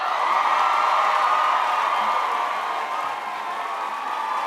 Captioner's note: crowd cheers loudly